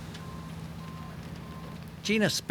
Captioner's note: fire crackling